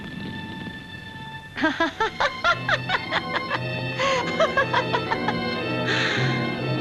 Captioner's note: Jan laughing